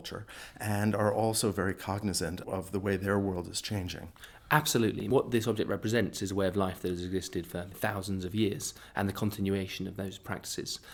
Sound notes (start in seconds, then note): 4.2 voiceover